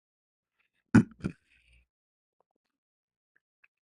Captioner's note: berdehem